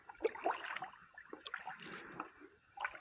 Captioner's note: paddling sound